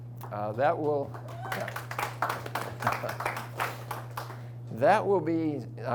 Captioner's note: audience applauds